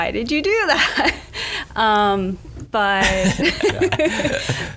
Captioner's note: laughs